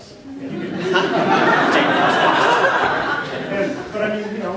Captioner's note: laughter